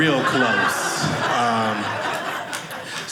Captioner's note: audience laughing